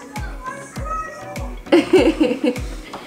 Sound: laughing

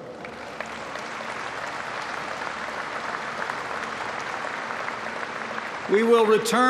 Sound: applause

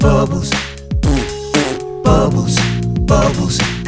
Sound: raspberry mouth fart x2

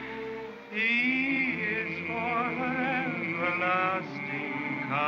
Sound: humming

